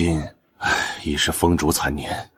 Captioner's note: sigh